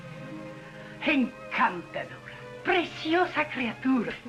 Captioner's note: speaking spanish